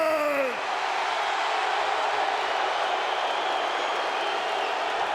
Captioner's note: audience cheering